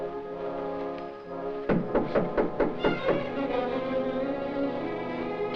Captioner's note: knocking on door